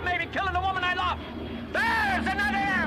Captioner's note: airplane passing